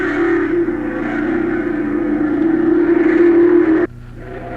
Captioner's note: engines roaring